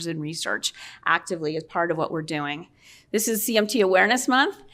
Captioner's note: none